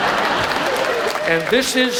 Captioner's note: audience laughs; audience applauds